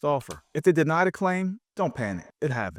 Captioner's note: screen clicking